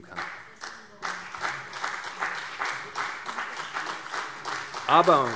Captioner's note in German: Beifall CDU und vereinzelt BÜNDNIS 90/DIE GRÜNEN